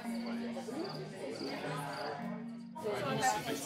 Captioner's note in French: brouhaha de voix